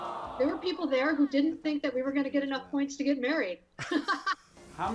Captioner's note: laughs